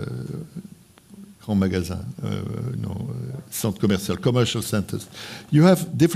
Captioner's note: speaking french